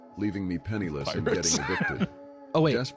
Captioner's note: laughs